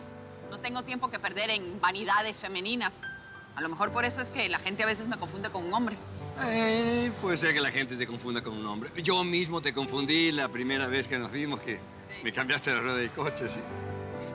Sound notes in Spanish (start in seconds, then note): none